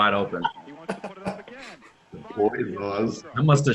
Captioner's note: all laugh